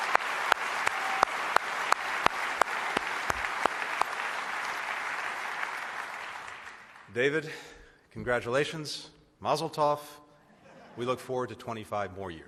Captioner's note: applause; laughter